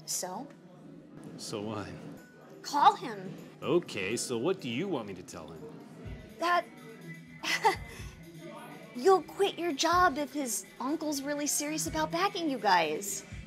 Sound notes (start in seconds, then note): 7.4 chuckles